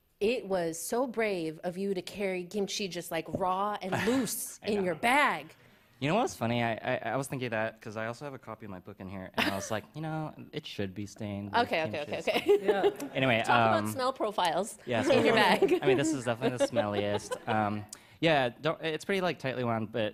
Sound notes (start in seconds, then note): 4.0 sighs; 9.4 chuckles; 12.3 laughs; 15.0 laughter